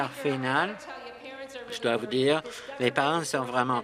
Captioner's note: applause